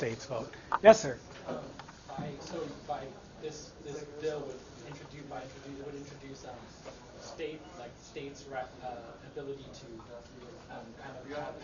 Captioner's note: stammers